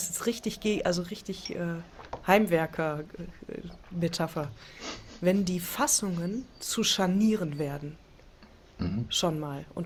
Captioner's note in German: schnauben